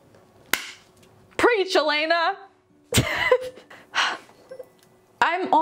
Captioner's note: laughs